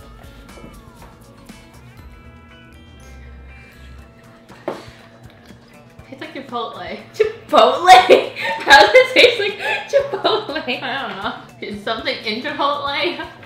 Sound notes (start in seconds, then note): 0.2 soft upbeat instrumental music; 8.0 laughing